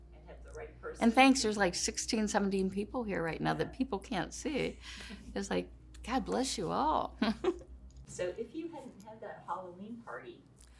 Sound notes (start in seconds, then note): 7.2 laughter